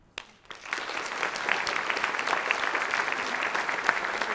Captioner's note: audience clapping